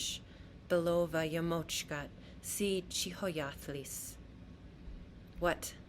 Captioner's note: non-english speech